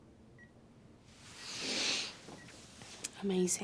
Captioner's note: Ashley snivels